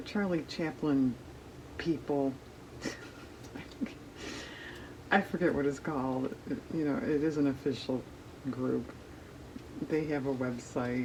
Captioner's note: laughs